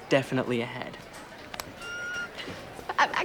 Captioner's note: squeals